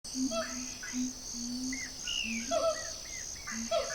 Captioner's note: birds chirping